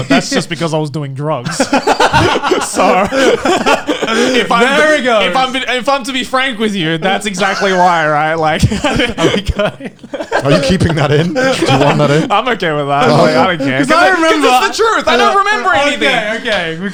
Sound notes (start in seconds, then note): 1.4 laughing; 7.9 laughing; 13.5 all laughing